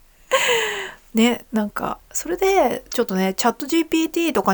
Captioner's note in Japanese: 息をのむ音